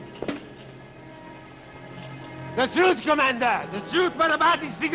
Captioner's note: speaks German